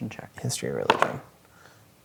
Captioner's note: dice rolling